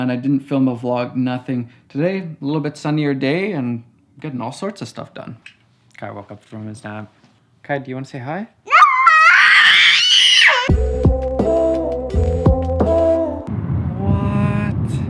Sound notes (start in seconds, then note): 8.6 screams; 10.7 deep music